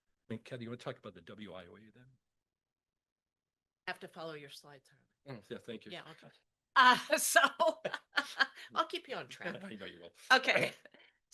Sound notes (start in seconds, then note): 7.1 laughs